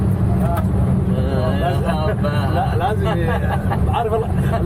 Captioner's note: pilots laughing